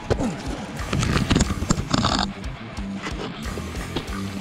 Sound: GoPro scraping

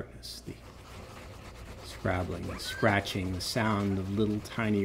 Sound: scratching

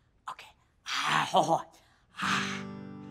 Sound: clearing throat

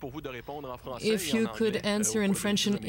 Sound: speaking French

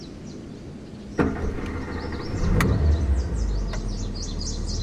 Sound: car engine starts

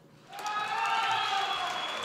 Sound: applause

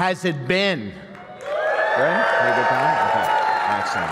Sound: cheers

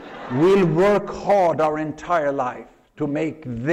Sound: laughter

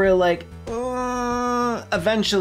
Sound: uneasy gay groan

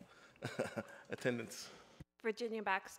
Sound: laughs

